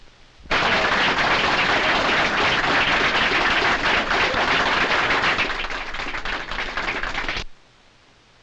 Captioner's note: applause